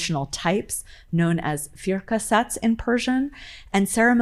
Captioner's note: speaking in foreign language